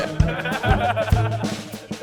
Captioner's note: laughs